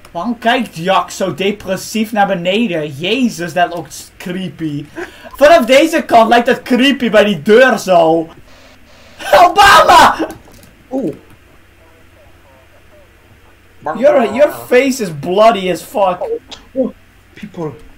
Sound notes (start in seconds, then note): 8.5 spraying sound; 9.2 laughing